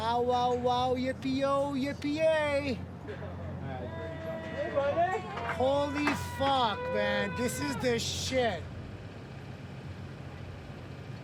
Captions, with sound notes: - Bow wow wow yippy oh yippy yay! (cheering) Holy fuck man, this is the shit!